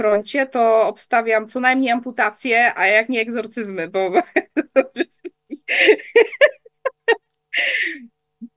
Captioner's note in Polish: śmiech